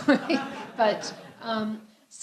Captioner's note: laughter